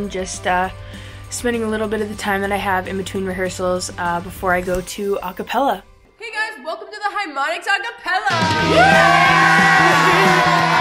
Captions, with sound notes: just spending a little bit of the time that I have in between rehearsals before I go to acapella. Hey guys, welcome to the Harmonics Acapella. (cheering)